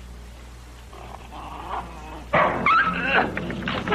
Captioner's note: growling, Barks, Yelps